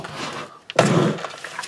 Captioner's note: sound of something sliding